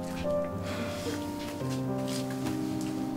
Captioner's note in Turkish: İç çekti